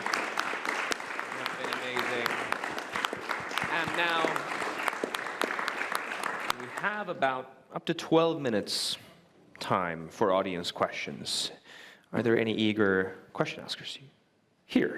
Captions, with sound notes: (Applause) It's been amazing. And now we have about up to 12 minutes time for audience questions. Are there any eager question askers here?